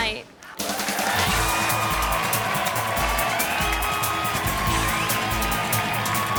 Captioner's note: audience applauding; upbeat music